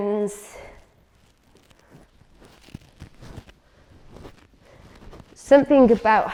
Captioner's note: rustling sounds